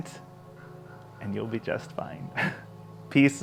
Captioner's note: laughs